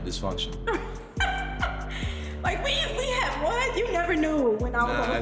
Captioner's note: laughs